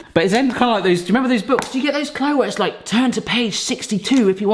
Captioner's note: none